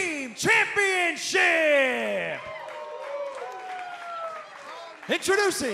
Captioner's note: cheers and applause